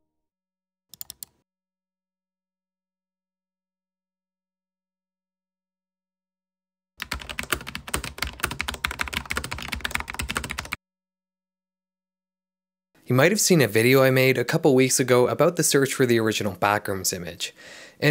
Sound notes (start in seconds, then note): 0.9 clicking; 7.0 keyboard typing